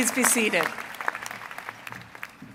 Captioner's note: applause